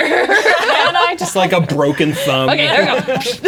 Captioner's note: players laughing